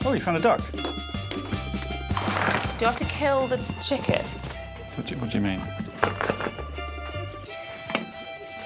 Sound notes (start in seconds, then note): 0.7 bell rings; 5.8 rattles